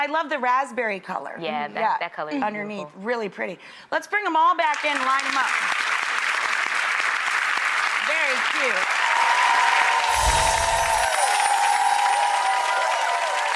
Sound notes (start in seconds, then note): 6.5 audience applauds; 8.6 audience cheers; 10.1 gentle wind chimes